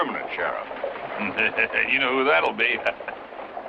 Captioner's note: chuckling